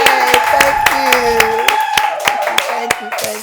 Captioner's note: cheers, applause